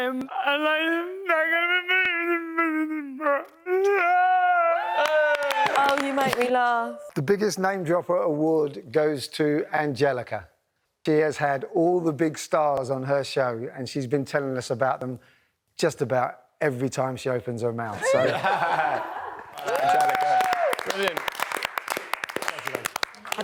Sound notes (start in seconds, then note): 4.8 cheering; 18.0 housemates laugh; 18.1 cheering; 19.4 applause